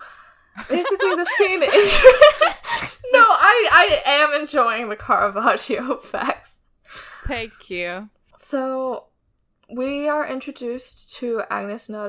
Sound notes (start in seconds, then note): 0.6 laughing; 0.6 laughs